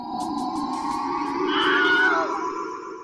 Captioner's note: scream